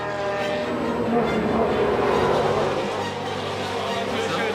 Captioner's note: engines roaring